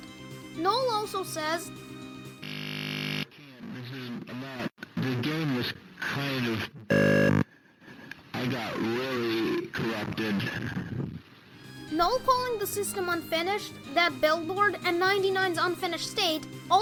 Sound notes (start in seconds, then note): 6.9 glitching